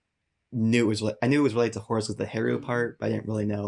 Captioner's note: murmurs